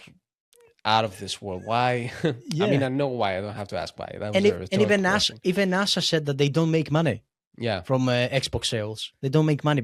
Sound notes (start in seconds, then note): 1.4 laughs